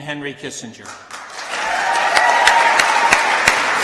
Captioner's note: applause and cheering